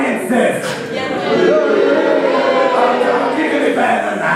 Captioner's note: boos